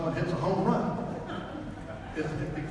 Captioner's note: audience laughs